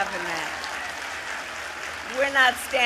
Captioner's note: applause